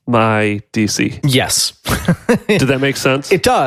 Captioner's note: laughs